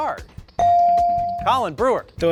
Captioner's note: bell ring